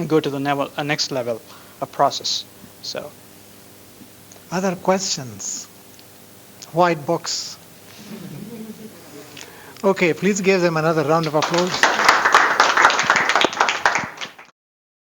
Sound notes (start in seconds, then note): 11.1 applause